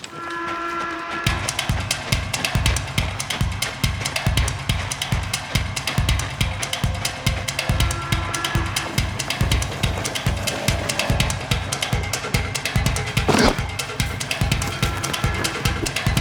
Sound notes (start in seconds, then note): 1.4 suspenseful music; 10.1 suspenseful music continues; 13.1 loud thud